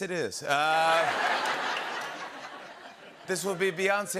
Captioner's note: laughter